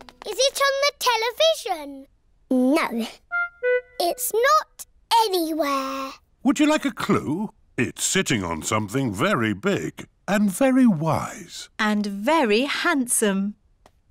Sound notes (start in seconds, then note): none